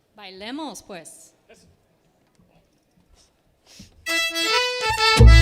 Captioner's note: band speaking in Spanish